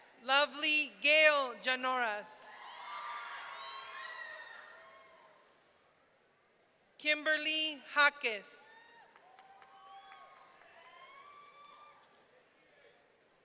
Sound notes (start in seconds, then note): 2.6 audience cheering; 8.8 audience cheering